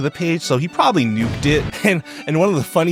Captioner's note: explosion booming